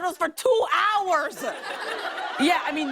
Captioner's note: laughter